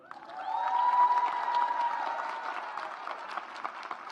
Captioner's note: audience applauds